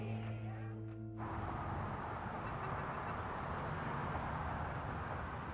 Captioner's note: horn honking